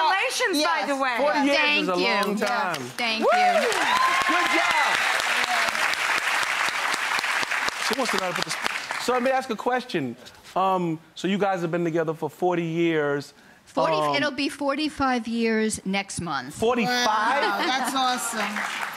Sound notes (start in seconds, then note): 6.0 audience applauding